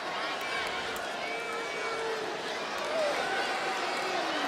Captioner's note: crowd shouting